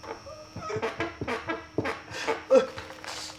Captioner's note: chair creaking